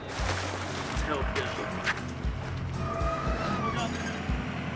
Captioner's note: people chattering